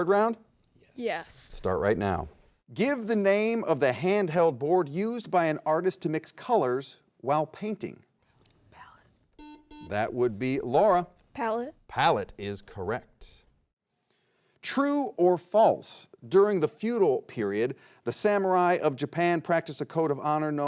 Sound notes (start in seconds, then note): 9.4 buzzer rings